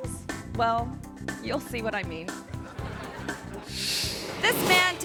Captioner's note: audience laughing